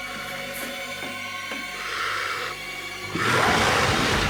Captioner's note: loud growl